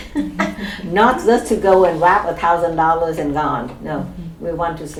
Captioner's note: laughs